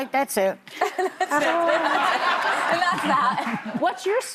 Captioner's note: laughter